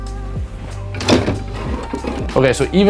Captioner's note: banging